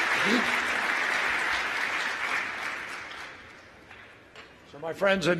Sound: applause

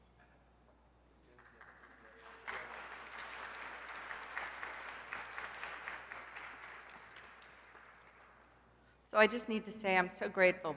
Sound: applause

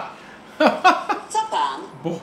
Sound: laugh; foreign language

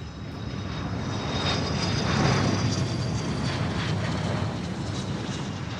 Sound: plane engine roaring

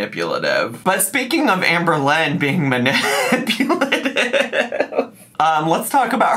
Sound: laughs

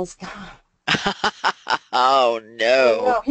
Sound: laughter

